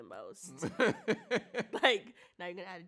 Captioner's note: chuckles; laughs